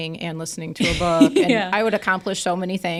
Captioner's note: laughs